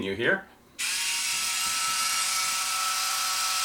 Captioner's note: buzzing